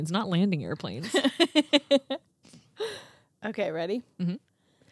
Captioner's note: giggling